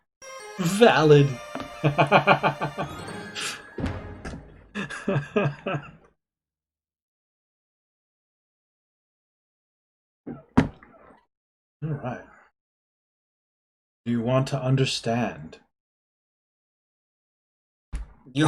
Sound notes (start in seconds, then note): 0.2 friendship fanfare; 1.8 laughs